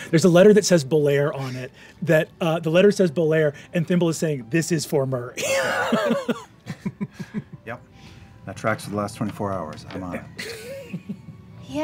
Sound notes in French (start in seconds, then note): 5.4 rires